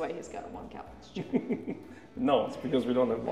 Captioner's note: chuckles